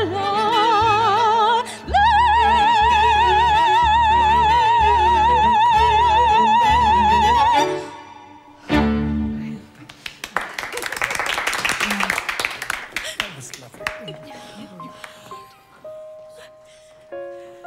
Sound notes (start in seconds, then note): 14.3 applause